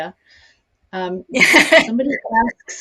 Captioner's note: laughs